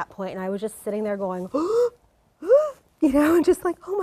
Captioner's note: gasp